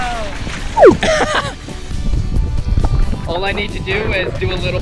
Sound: laughs

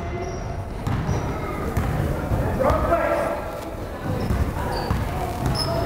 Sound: crowd chattering

